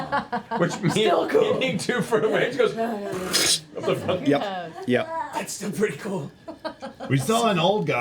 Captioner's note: splashing noise